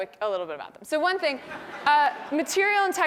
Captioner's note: laugh